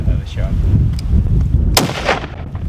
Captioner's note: gun shot